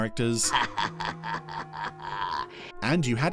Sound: sinister laughing

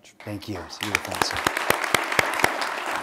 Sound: applause

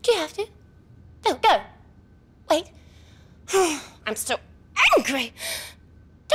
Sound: huffs

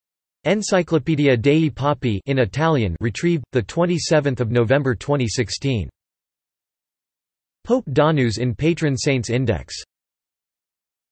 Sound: in Italian

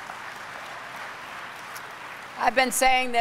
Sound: applause

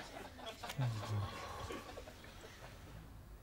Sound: sighs

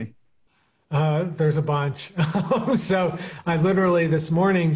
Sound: laughing

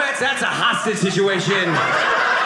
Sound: audience laughing

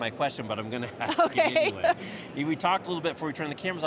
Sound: laughs

